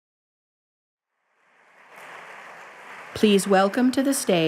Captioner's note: applause